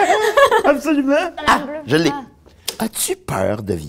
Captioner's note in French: rires